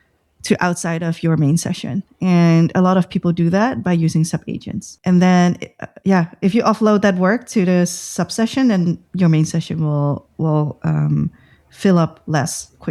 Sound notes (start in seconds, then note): 5.6 uh